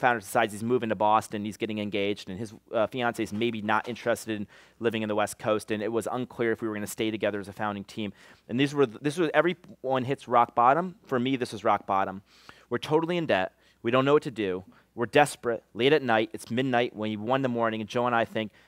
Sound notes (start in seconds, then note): none